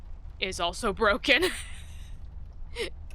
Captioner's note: laughs